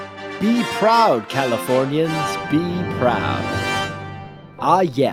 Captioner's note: voiceover